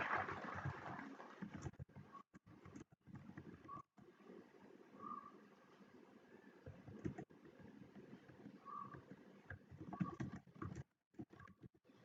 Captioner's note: applause